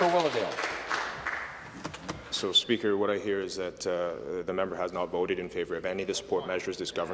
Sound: some Applause

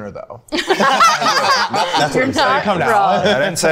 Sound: group laughing

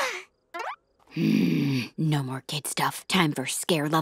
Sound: groaning

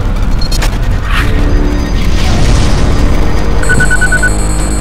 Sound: electronic beeping

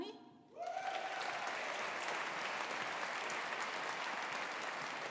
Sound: audience applauding

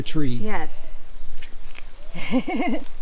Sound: laughs

